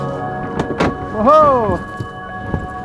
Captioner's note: door opens